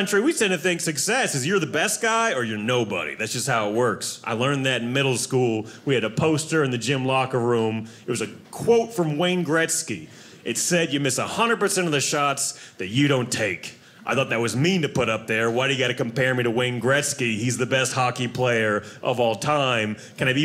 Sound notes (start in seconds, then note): none